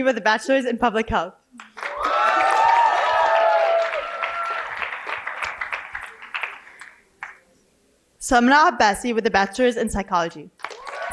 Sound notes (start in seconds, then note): 1.6 cheering and applause